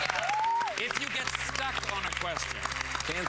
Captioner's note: cheers and applause